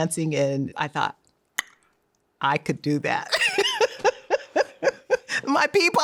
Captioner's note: laughing